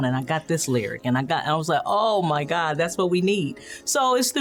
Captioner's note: none